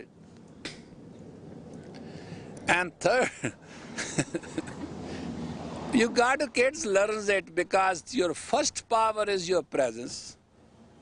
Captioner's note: смеется